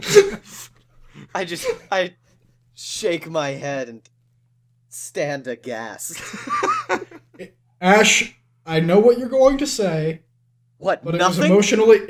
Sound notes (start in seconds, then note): 0.0 laughter; 6.1 laughter